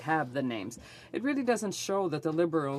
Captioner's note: speaking French